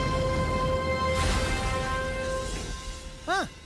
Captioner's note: crash